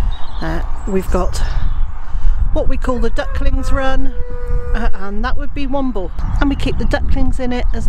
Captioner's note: sound of crowing